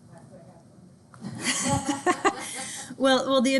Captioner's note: and Students laugh